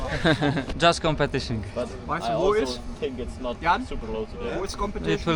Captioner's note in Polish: śmiech